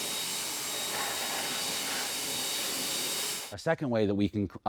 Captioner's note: blower whirring